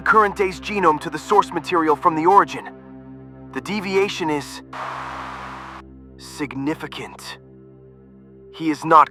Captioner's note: static burst